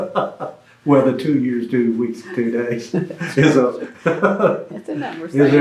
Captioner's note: laughs; laughter